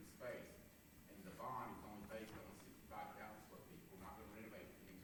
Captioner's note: faintly speaking